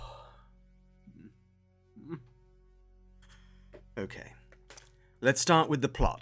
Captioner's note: deep Breath